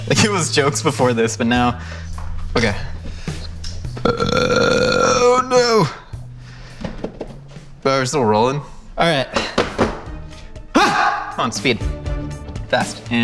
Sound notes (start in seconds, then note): 3.8 burps; 10.7 yells